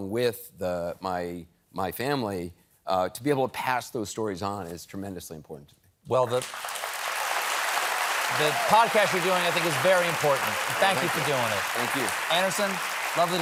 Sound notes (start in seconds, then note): 6.9 applause